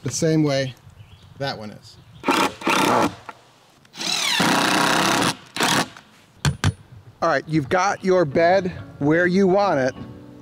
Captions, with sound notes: the same way that one is. (screwdriver whirring) All right, you've got your bed where you want it.